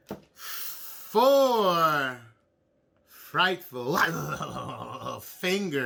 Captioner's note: groans